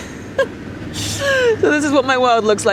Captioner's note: person laughing